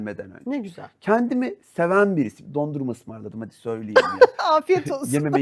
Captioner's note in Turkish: kahkaha